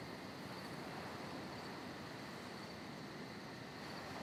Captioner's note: nighttime ambience